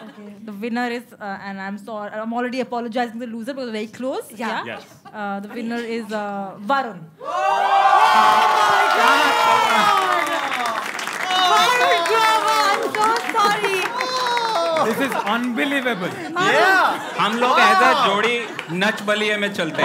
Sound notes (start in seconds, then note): 10.5 cries like a baby